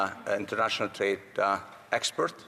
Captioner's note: speaking French